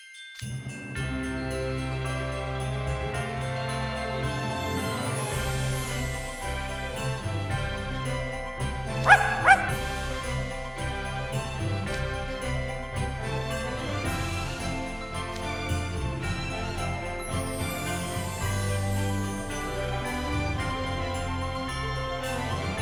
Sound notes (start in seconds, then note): 9.0 barks